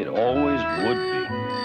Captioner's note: bicycle bell ringing